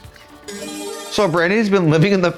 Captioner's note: bright chime